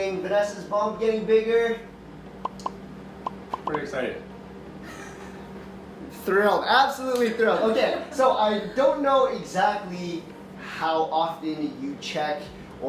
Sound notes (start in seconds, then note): 7.5 laughs